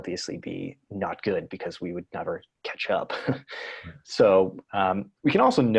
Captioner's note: chuckles